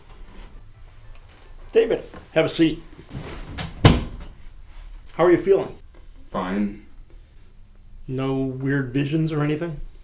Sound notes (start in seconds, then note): 3.0 door closes